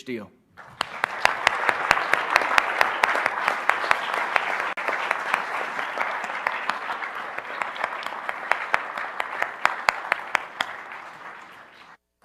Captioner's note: applause